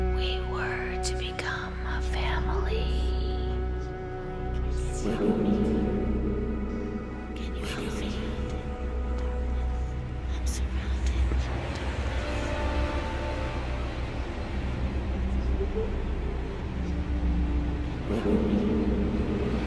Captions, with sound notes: We were to become a family. Can you help me? I'm surrounded by darkness. (ghostly whispering)